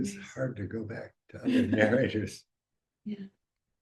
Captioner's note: chuckling